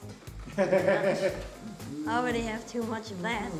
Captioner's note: laughs